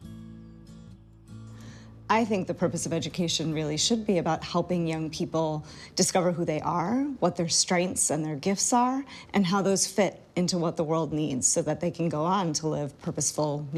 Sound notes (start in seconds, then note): none